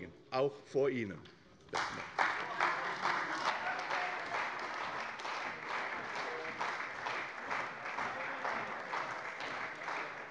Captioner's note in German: Beifall bei der CDU